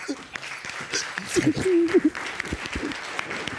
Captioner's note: both sobbing